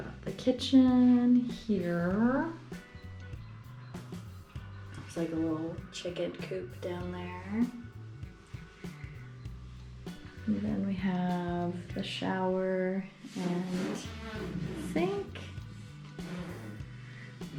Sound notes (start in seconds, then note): 13.4 makes fart noises from the living room